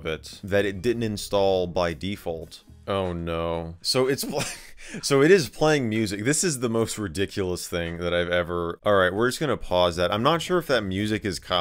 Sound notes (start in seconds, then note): 4.2 is cut off with laughter